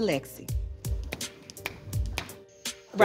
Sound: fingers snapping

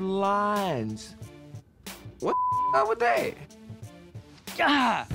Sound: beep

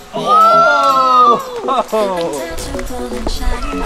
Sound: shouts

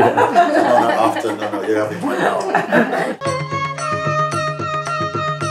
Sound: laughter

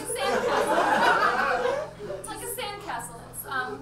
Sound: audience laughs

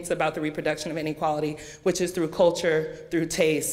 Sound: none

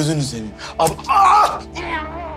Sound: shouts

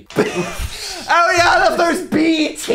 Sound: everyone laughs

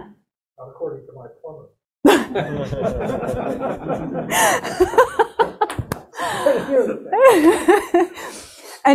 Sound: laughter

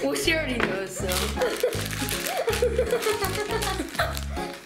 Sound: giggles

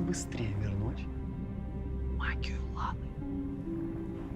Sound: in whisper

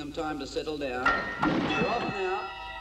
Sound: bell dings; tense instrumental music

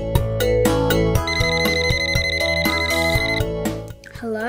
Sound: phone ringing

